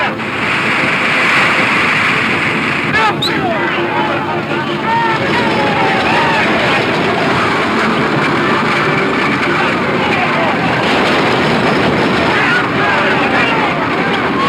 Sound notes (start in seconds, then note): 0.1 wagon scraping; 0.1 wheel breaking; 3.7 dramatic music; 3.7 men yelling; 7.4 hooves pounding; 10.9 wagon wheels rumbling